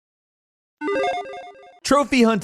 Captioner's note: video game tones